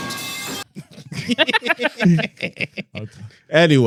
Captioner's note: dramatic Music; laughing